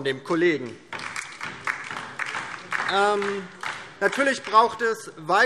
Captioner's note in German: Beifall DIE LINKE